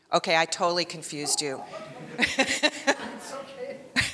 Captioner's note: laughing